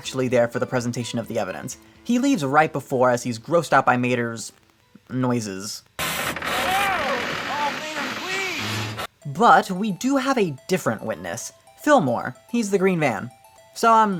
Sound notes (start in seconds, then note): 6.0 disgusting car sounds